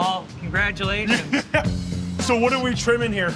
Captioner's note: laughs